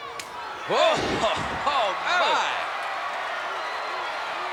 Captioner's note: laugh